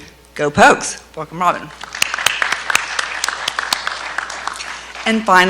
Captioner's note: clapping